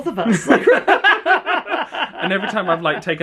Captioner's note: both laugh